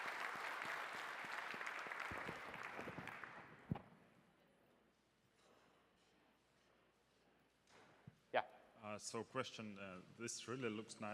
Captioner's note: applause